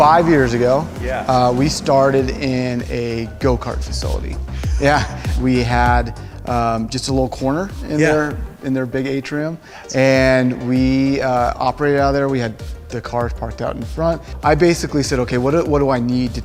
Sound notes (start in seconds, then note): 4.4 laughs